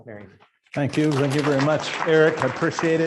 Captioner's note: students applaud